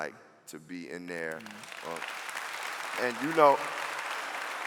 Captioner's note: clapping